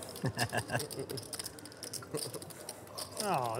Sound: chuckling

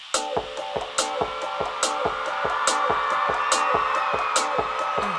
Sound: upbeat music; crowd cheering

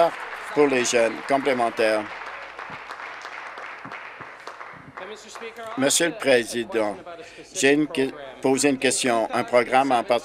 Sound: applause

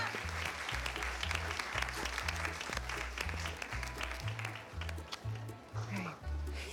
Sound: clapping

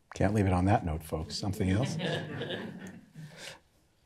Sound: audience laughs

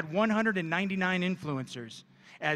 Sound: none

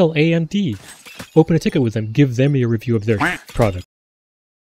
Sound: quack

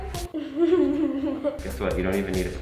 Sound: laughing

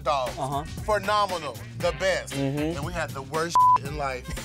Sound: beep

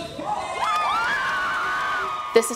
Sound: crowd cheering

